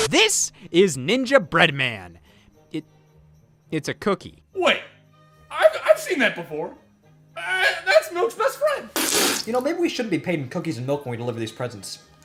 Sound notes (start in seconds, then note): 8.9 sssspppppfffft